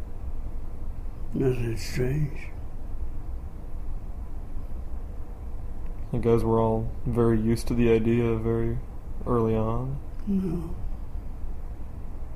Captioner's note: makes faint noise of assent